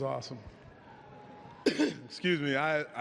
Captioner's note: coughs